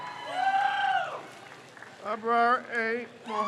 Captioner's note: crowd cheers